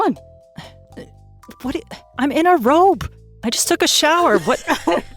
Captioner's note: scoffs; EVERYONE chuckles